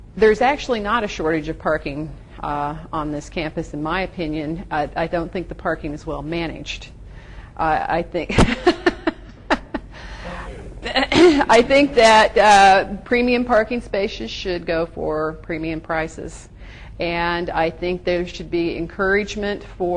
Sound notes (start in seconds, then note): 8.0 gently laughs